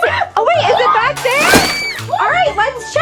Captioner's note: spring bouncing